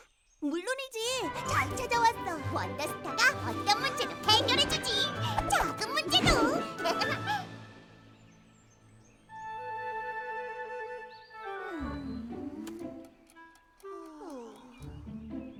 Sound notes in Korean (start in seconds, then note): 6.0 웃음소리; 9.1 새 소리